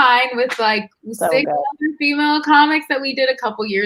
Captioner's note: murmurs